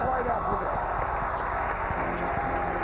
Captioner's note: cheers and applause